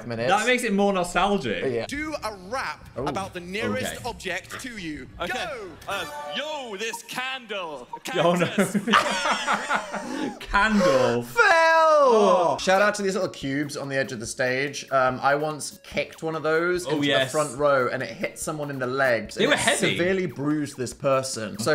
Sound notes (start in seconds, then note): 8.2 both laughing